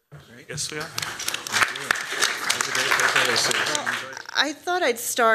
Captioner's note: applause